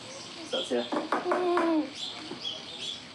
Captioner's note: knocks